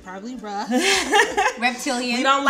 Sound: laughing

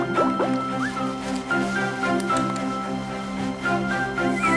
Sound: whistle; tongue clicks; whistle

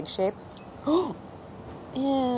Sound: gasps

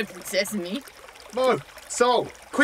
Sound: calling

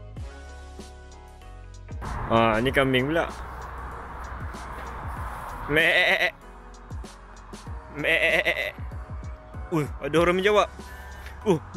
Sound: making sheeps sound

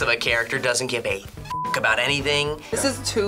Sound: beep

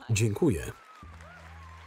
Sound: audience applauding; gentle music

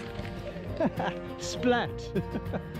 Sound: laughs

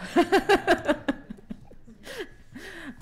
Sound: laughter

